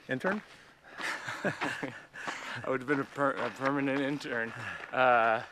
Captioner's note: laughs